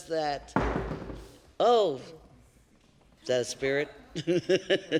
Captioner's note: stomp